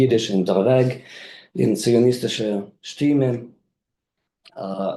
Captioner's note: speaks in foreign language